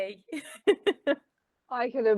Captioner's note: laughing